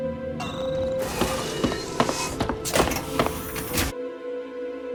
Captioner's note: system beeping; footsteps tapping